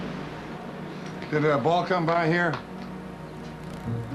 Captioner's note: none